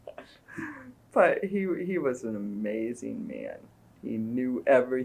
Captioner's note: laughs; laughter